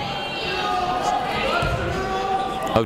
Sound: chatter

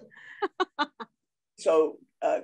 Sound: laughs

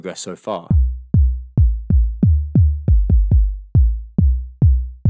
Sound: rhythmic tapping

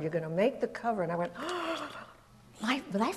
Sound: gasp

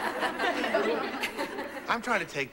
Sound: class laughing

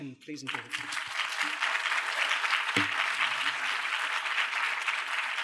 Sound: applause

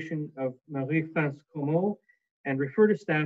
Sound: speaking in French

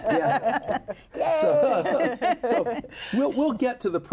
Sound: laughing

